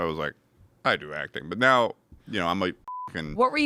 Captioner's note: beep